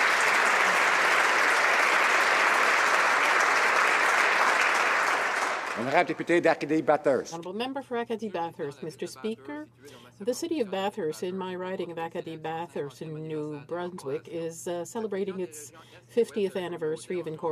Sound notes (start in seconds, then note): 2.8 applause